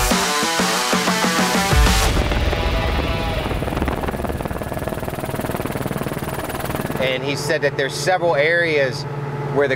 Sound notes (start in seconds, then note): 2.7 helicopter rotors whirring